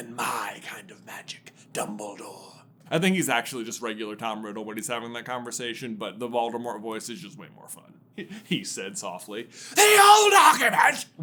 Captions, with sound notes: I think he's actually just regular Tom Riddle when he's having that conversation, but the Voldemort voice is just way more fun. [giggling] He said softly. THE OLD ARGUMENT?!